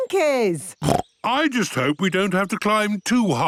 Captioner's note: snorts